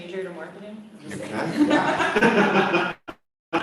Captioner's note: laughter